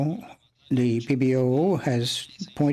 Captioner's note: speaking French